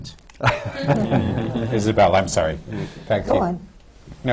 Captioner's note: laughter